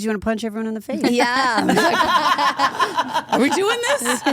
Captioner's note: group laughs